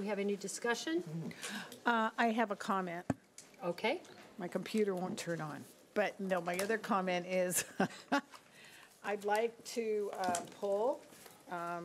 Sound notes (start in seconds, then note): 8.6 laughing